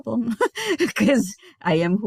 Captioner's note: giggling